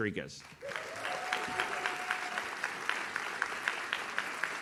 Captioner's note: audience claps